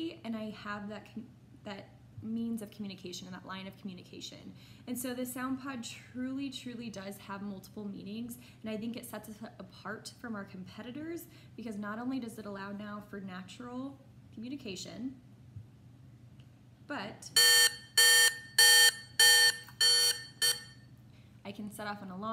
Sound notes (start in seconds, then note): 17.3 beep beep beep beep beep beep